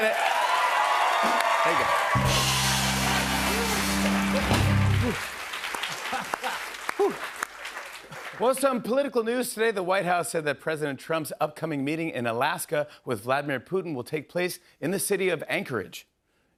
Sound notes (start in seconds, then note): 0.1 cheers and applause; 2.7 cheers and applause